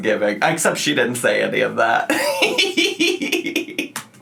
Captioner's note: laughs